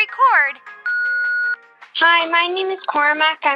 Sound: soundbite of beep

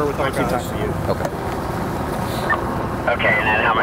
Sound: man murmurs

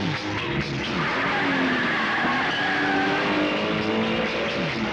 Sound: tires squealing

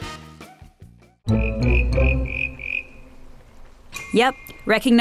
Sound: frog croaks

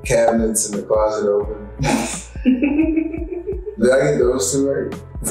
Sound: laughing

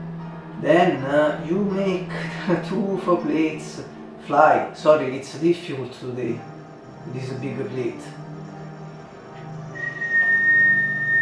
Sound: whistle

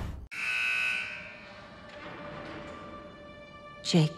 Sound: alarm blares

